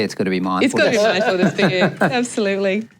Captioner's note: laughter